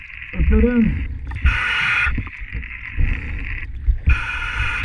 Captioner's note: equipment hissing